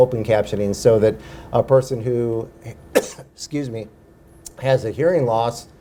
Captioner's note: coughs